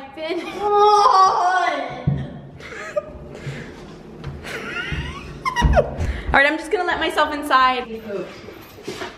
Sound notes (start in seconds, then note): 4.4 laughing